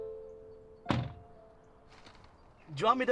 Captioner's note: car door bangs shut